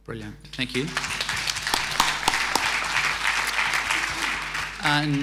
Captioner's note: audience applauding